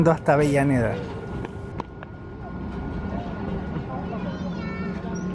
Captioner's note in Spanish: sonido ambiente del tren y la estación